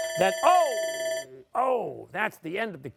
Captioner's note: timer sounding